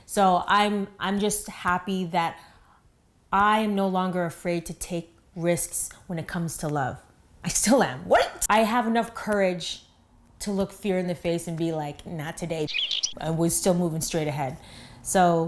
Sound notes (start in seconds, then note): 12.6 chirp